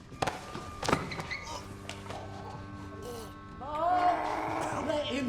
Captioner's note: choking